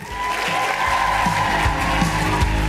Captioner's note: applause